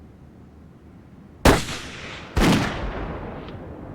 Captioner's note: gunshots